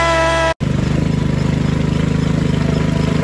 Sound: engine noise

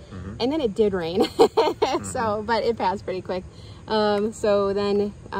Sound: laughs

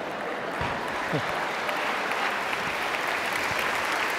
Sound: audience clapping

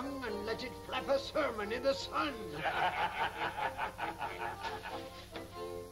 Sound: laughing

